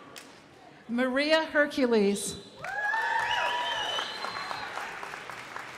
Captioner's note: crowd applauding